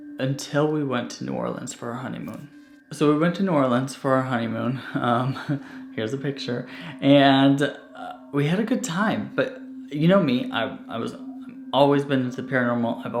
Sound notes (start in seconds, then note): 4.8 chuckling